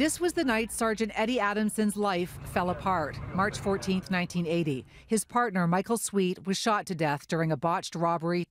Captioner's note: radio transmission